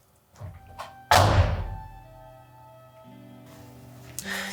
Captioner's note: door slams